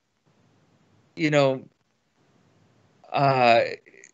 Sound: laughs

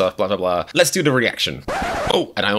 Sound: record scratch sound effect

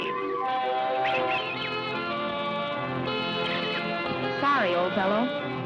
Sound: monkey squeaking

